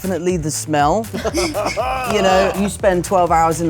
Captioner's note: laughter